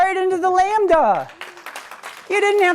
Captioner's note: applause